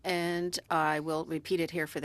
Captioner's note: speaking French